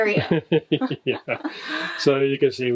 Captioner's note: both laughing